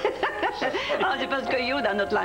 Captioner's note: Rires